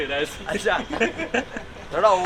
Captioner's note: laughing